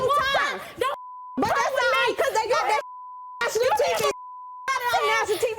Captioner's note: shouting over each other